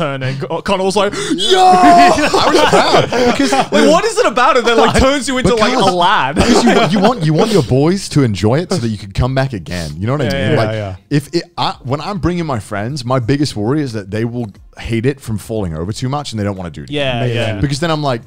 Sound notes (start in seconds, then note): 1.4 all laughing